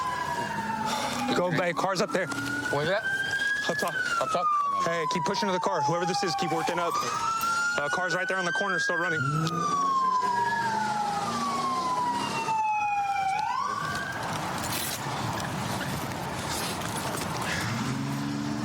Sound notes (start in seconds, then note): 9.2 engine revving